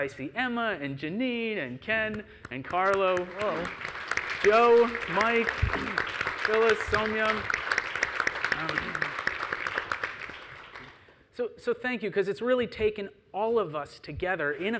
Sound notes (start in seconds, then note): 3.4 audience applauding; 6.6 applause drowns the conversation